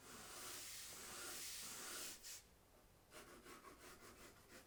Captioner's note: pencil scratching